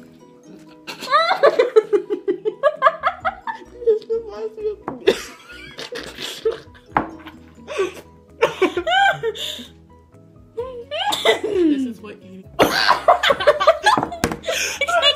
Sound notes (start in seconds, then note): 5.0 laughing; 5.6 whispers